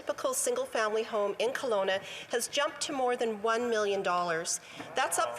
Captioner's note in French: voix de l'interprète